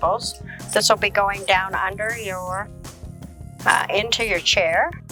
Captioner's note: scissors cutting